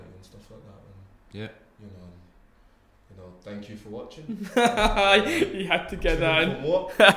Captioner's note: laughs; group Laughs